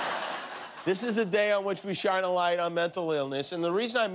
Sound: laughter

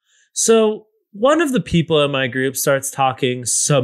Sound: none

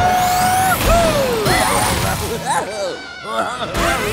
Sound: giggling

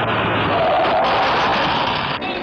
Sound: tire Screeching

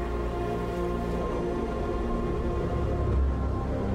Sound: brooding music continues; wind howling

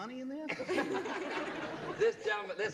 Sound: laughter

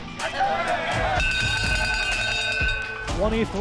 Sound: players chanting; bell ringing

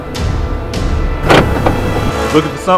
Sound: car unlocked

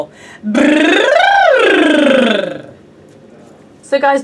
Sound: trills lips

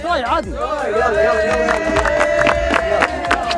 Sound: crowd cheering

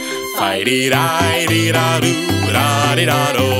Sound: humming

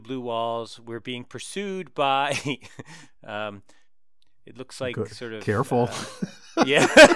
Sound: laugh

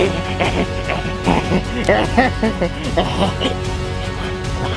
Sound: monster chuckles; monster grunts; dramatic music continues

